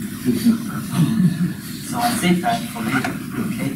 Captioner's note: group laughs